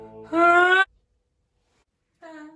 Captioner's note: A horrible whine